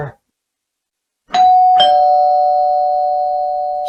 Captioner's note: doorbell chimes